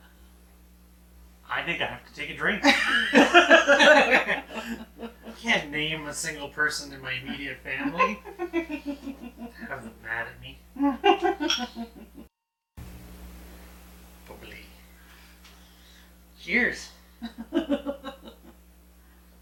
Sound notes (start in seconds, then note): 2.5 both laughing